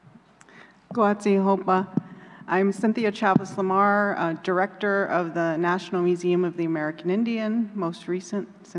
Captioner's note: non-english